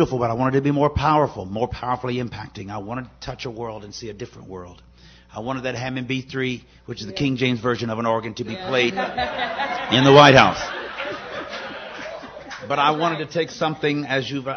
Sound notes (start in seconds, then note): 10.6 laughter